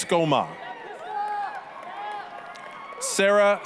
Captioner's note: applause, cheering